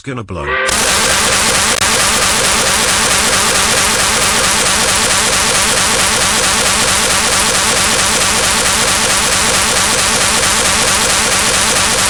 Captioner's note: angry work whistle